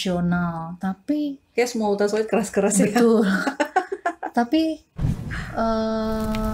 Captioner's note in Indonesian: tertawa